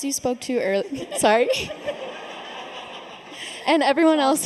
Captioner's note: laughs; laughter